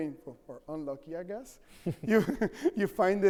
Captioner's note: chuckles